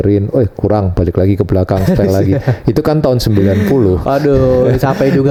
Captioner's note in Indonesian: tertawa